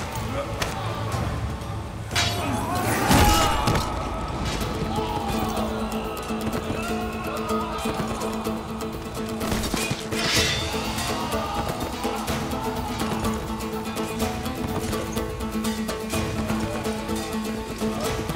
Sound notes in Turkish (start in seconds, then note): 1.9 Savaş sesleri; 9.4 Kılıç sesleri; 12.2 Müzik - Aksiyon